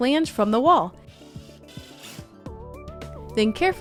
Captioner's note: drill whirring